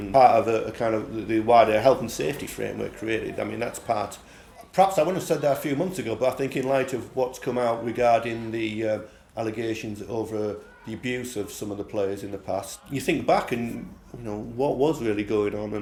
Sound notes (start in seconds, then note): none